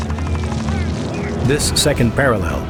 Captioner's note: soldiers yelling; gunshots firing